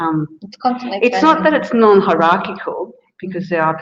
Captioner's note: speaks quietly